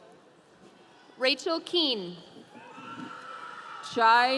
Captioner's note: audience cheering